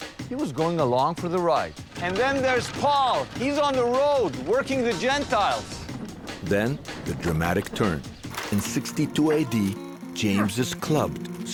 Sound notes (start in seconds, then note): 1.7 clattering; 10.5 gentle music